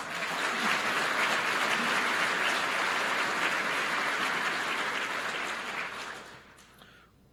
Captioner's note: applause